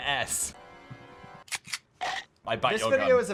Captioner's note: gun clicks and Phil chomps